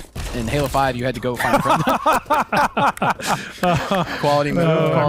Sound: laughter

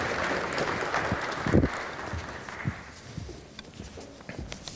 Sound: applause

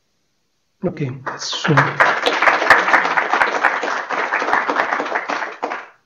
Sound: applause

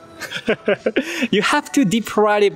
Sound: laughs

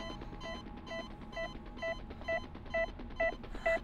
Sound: heart monitor beeps slow

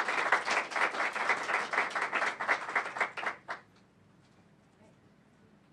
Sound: applause

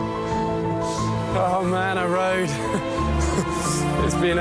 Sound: laughing

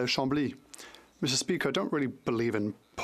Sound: speaking French

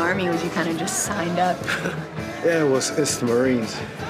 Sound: chuckles

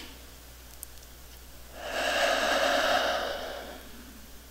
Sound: inhale; exhale

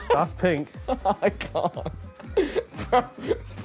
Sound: laughing

